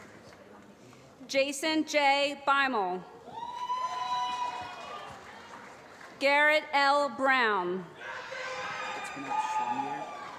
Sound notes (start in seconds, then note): 3.8 applause; 9.1 applause